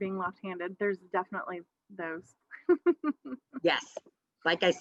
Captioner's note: laughs